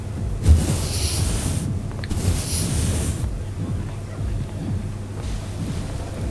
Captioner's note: water splashing